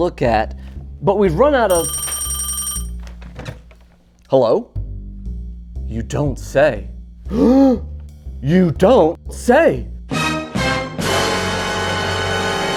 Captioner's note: telephone rings